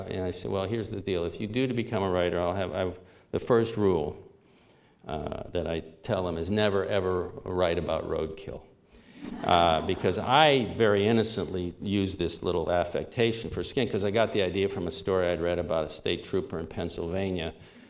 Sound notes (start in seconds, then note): 9.2 subdued laughter